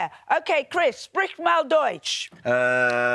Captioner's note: speaks german